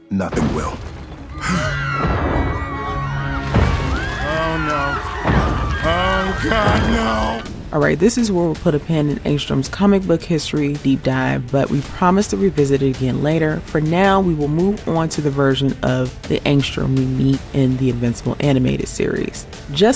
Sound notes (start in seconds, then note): 0.2 roof crashing; 1.4 group gasping